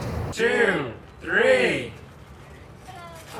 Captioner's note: crowd